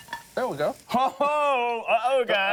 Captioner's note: yells